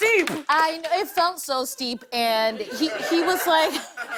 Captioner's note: laughter